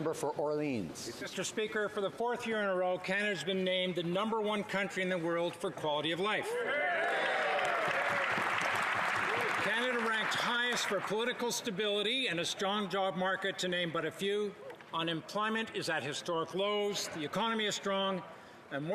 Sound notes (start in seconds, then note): 11.0 cheering